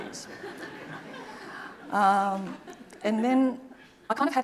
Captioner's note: audience laughing